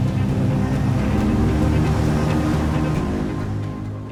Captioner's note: engine whirring